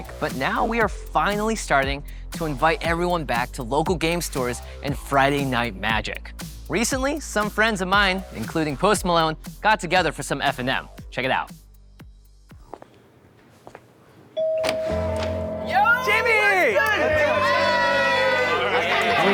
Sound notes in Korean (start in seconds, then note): 14.4 벨소리; 16.2 웅성거리는 이야기